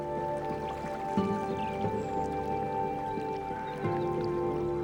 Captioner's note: water trickling